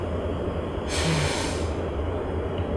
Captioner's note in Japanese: 溜息